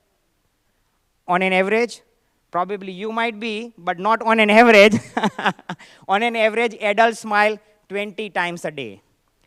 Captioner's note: laughter